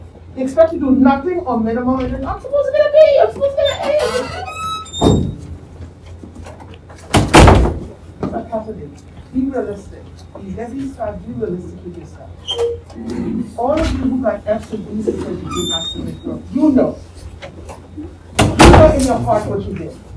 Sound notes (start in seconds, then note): 3.5 opening the door sound; 6.2 closing the door; 18.4 door closing